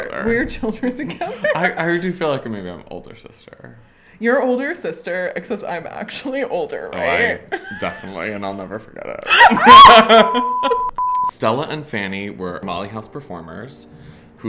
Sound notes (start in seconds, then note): 9.1 both laugh; 10.3 electronic beeping